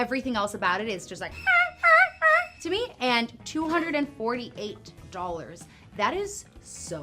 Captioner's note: imitates slasher movie music